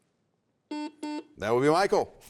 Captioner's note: buzzer sounds